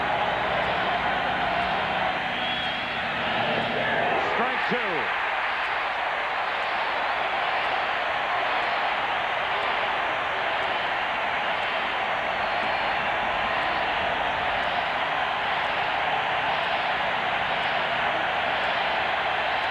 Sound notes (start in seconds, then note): 9.3 cheering